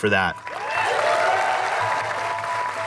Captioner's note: cheering